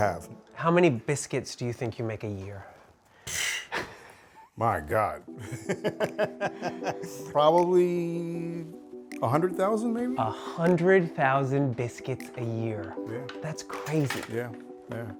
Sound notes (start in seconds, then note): 5.4 laughs